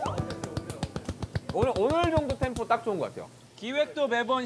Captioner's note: applauding in pure happiness